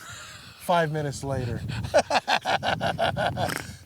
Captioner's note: both laughing